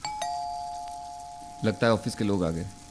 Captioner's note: door bell